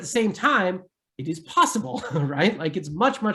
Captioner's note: giggles